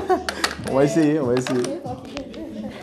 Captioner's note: rires